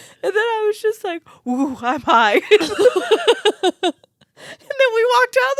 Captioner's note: laugh